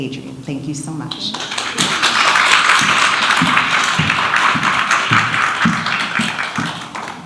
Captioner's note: audience applauds